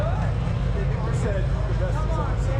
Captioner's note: crowd chattering; engine revving